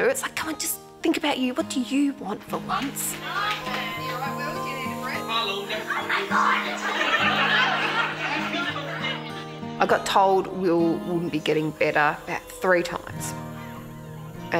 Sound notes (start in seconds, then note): 8.0 crowd laughter